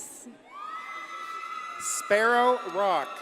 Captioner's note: audience cheers and applauds